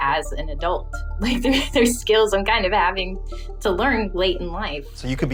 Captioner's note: chuckles